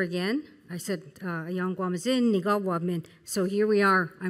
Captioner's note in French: Parlant Anishinaabe